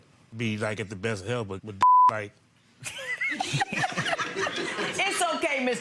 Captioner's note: beeps; laughing